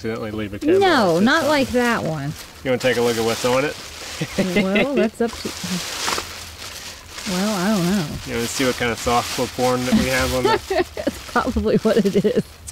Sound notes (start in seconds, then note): 4.1 Chris chuckling; 9.9 Lydia laughs